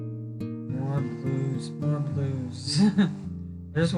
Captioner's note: laughing